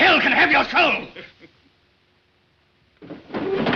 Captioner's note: heathcliff chuckles